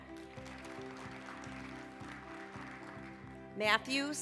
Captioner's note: applause